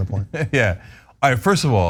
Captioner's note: laugh